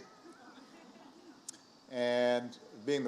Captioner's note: laughter